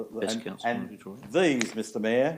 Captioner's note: speaks away from mic